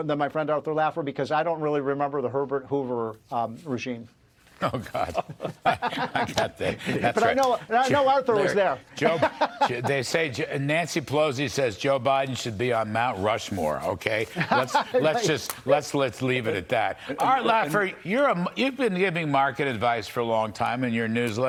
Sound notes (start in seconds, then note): 14.3 laughter